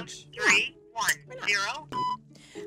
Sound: voiceover; beep

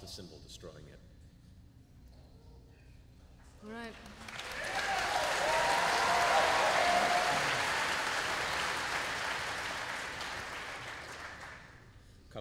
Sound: applause

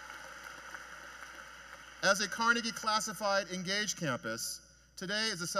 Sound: cheers and Applause

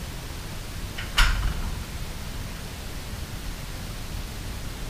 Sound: door whirring

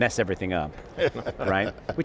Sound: group laughing

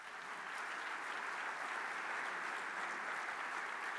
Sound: applause

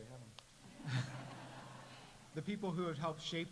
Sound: audience laughs

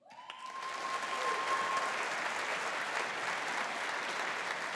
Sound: audience applauding

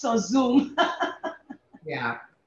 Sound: laughs

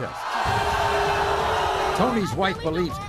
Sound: crowd jeers

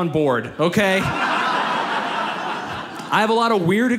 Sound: audience laughs

